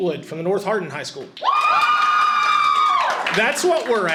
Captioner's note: audience cheers loudly and applauds